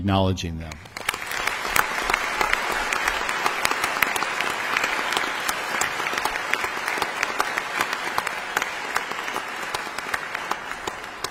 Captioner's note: audience applause